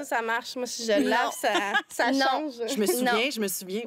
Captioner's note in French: rires